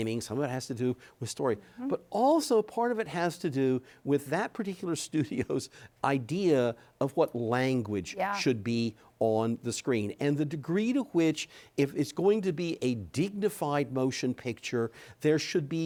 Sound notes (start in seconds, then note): 5.2 chuckles